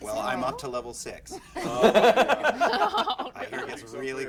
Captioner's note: laughter